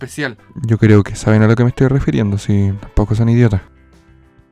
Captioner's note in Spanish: susurrando